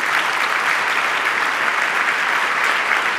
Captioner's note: applause